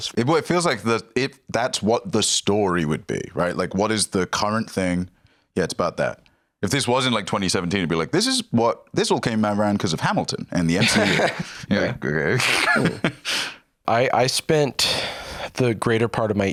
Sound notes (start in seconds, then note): 12.3 laughs